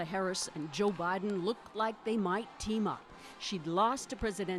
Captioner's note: cheers and Applause